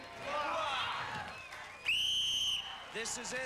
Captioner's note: cheers; whistle blows